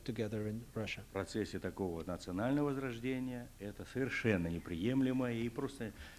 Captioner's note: non-english speech